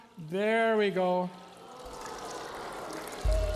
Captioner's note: bubbling, audience exclaiming; warbling music